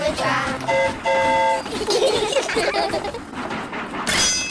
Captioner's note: train horn toots; all giggle